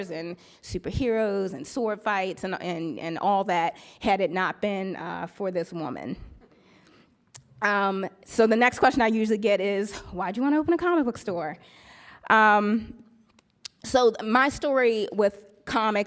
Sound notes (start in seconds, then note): none